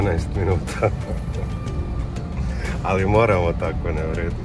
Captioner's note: laughter